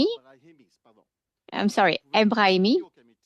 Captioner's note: speaking French